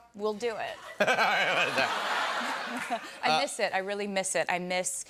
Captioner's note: laughter